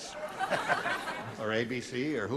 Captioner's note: laughter